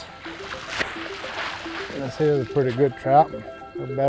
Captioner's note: water splashing